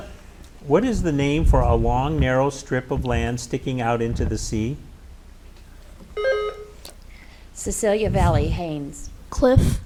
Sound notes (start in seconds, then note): 6.1 buzzer beeps